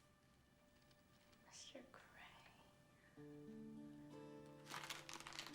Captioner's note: whispering